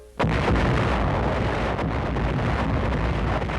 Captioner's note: guns firing